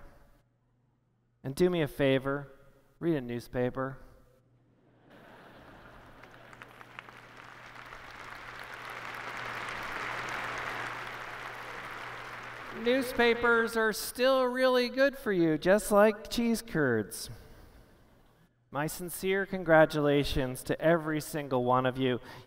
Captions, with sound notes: And do me a favor, read a newspaper. [ Laughter ] [ Applause ] Newspapers are still really good for you, just like cheese curds. My sincere congratulations to every one of you.